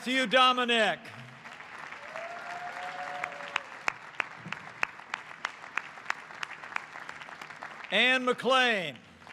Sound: applause

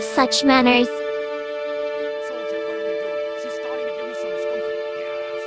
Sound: Whispering to Soldier; whispering to Scout

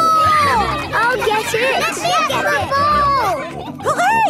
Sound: children calling for the ball; children cheering

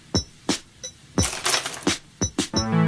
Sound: picks clink off journal

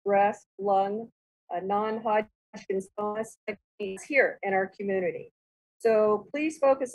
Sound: murmurs

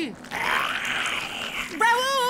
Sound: growling

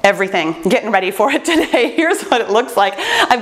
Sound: laughs

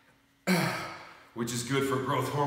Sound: grunting

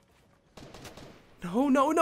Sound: guns firing

